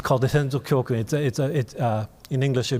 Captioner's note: speaking in foreign language